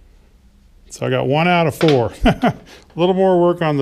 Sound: laughs

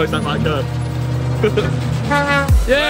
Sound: truck horn honking

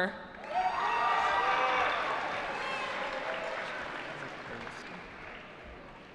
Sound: cheering

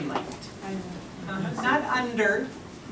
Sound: voiceover

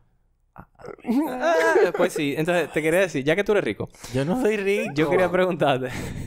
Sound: laughs

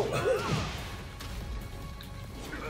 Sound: laugh

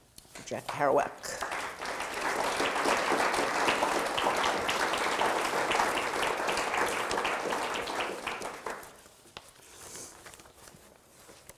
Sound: audience applause

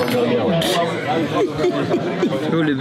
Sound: laugh

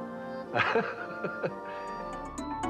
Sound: laughs

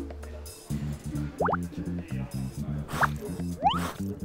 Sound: blowing!

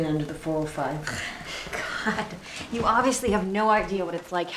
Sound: groans

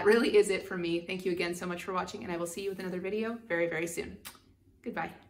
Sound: kisses

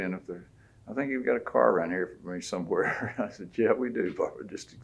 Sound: laughs

